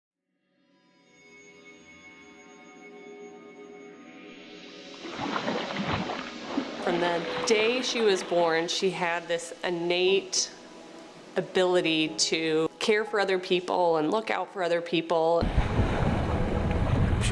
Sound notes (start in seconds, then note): 0.6 dramatic music; 5.0 splashing water; 15.4 rushing water